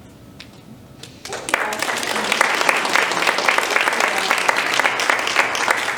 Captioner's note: audience applauding